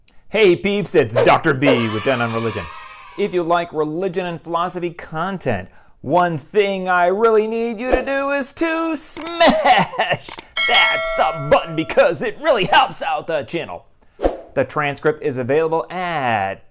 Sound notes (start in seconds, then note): 1.6 kids cheering; 10.5 bell ringing